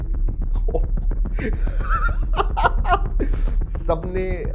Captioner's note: laughs